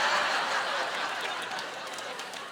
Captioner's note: laughing